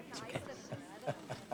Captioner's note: laughing